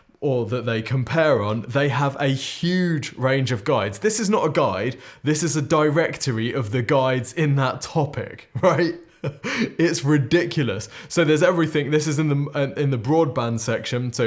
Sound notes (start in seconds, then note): 8.5 laughs